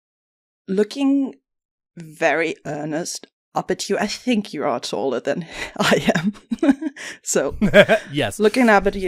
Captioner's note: laughing; laughs